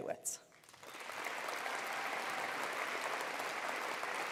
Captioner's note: applause